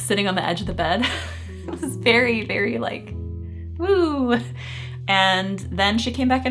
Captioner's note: chuckling